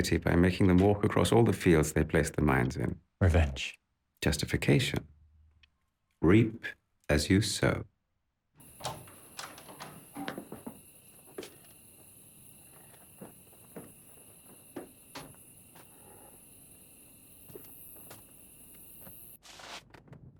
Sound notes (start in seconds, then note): 8.7 door clicks; 15.6 wood creaking